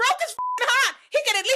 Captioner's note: beep